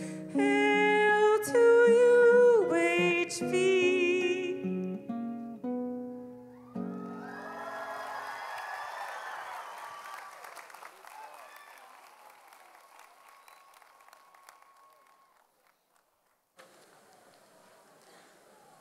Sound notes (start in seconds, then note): 6.6 audience applauds